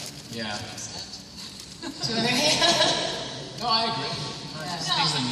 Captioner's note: cast members agreeing